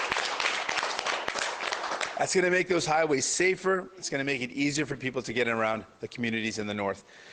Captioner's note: applause